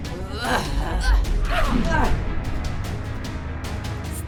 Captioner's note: grunting